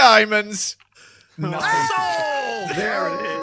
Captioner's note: assorted cheers